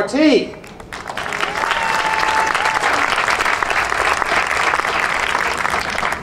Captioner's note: audience cheering and applauding